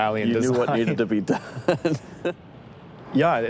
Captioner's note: laughs